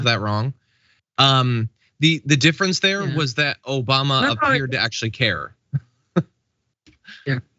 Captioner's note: laugh